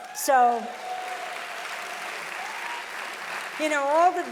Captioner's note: audience applauding loudly